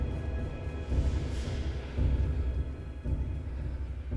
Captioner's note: John panting